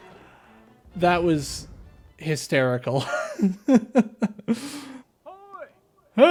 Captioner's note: laugh